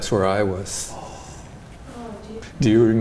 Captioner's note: crew members gasp